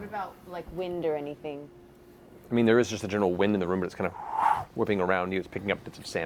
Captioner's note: whoosh